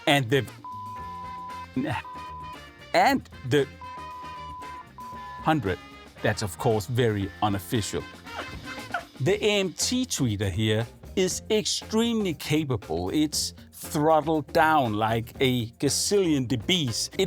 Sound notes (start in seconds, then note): 0.5 beeping; 3.6 beeping; 8.3 dog barking